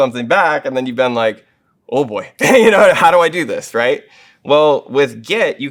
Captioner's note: laugh